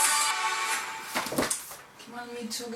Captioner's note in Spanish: sonido de libros cayéndose